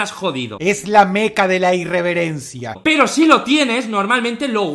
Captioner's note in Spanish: Voz perturbadora de Dross